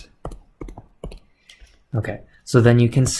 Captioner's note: electron tapping